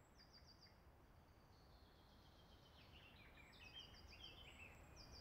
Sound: birds singing

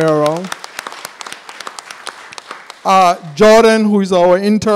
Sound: applause

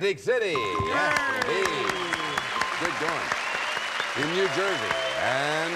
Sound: bell; applause

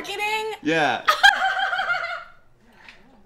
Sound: laughter

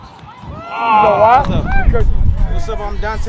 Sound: groans And Cheers

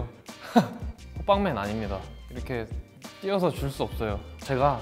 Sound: speaks Korean

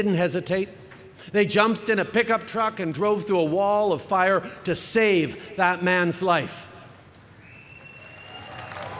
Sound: cheering

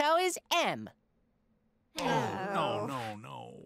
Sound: groaning

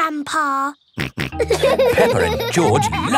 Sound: laughing; snorts

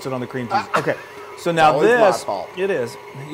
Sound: laugh

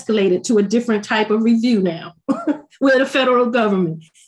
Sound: chuckles

